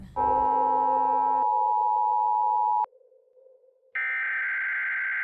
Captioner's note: emergency Broadcast Alarm rings